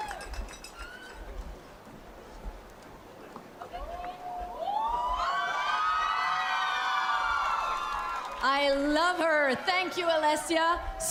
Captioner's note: cheers and Applause